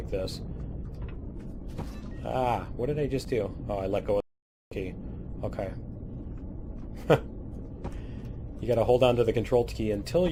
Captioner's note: laughs